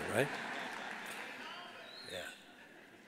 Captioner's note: audience laughs